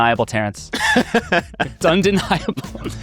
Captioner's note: laughing